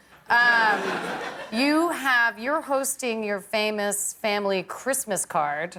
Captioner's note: laughter